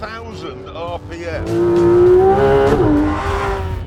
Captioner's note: engine revs